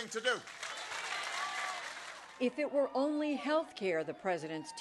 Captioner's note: cheering and applause